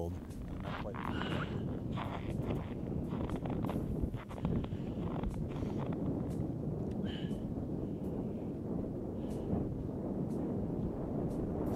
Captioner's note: wind; snow crunching underfoot